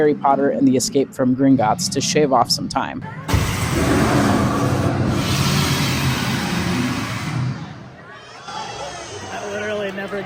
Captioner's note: Dragon fire-breathing